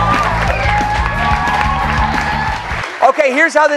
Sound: cheers and applause

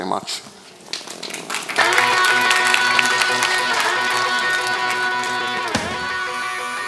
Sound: audience applauding; exciting rock music

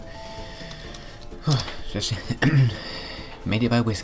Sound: ahem

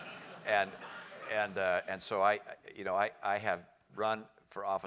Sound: laugh

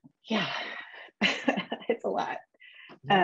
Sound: chuckles

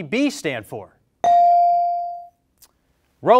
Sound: bell rings

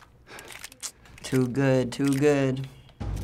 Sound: clicks mouth

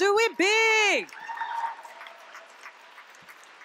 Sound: applause

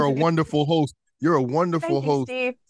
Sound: laughing

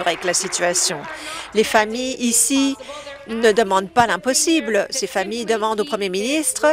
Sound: applause

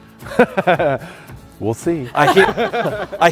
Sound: laughing

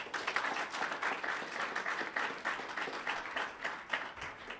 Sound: applause

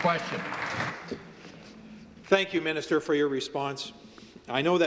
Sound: some Applause

